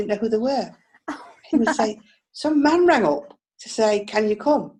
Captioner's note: laughs